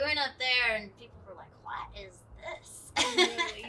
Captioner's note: laughs